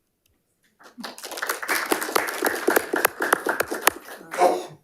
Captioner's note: attendees applauding